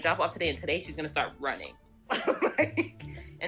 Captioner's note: laughs